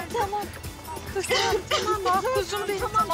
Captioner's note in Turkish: Bağrışma sesleri